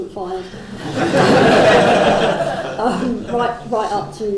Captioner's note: crowd laughs